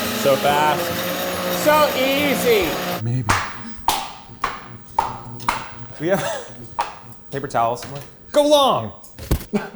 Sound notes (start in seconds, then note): 3.2 flippers flapping; 9.5 all laugh